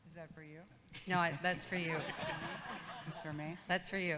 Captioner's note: audience laughs